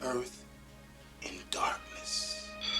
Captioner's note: bell ringing